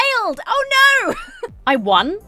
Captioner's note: laughs